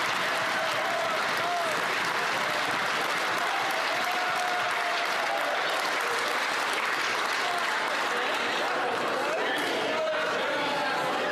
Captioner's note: some Applause